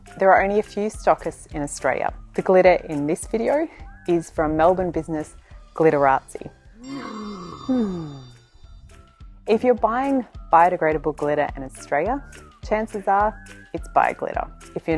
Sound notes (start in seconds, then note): 6.8 sighing; 6.8 unicorn neighing